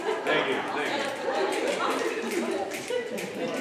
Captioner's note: audience snapping